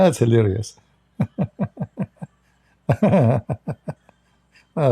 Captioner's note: Ketawa